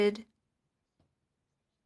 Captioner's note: speaking French